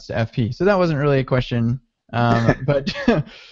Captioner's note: laughing